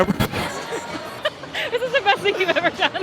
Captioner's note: laughing